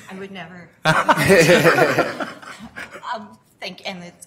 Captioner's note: laughter